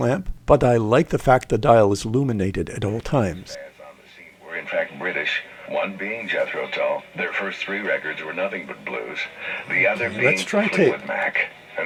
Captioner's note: radio playing